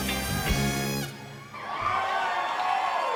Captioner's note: cheering